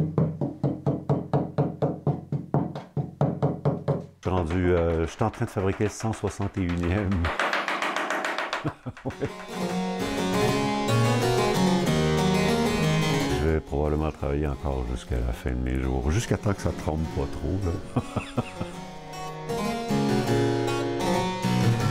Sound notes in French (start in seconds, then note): 0.0 cognements; 8.6 rire; 17.8 rire